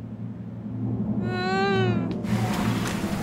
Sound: worried moan

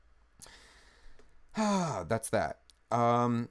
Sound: sighs

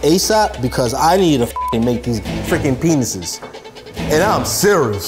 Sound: beep

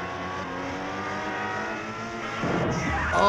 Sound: car engine revving; thudding, shouting

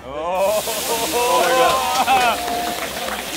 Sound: fire sizzles; clapping and cheering

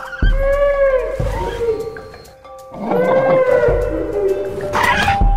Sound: baby Brachiosaurus Sounds

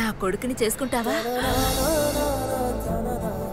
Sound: gasps

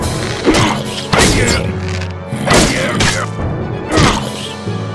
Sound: N00bly grunting

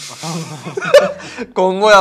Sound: laughs

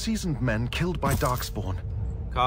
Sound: armor noise

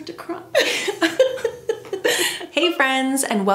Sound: both laugh

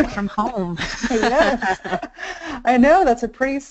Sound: laughing

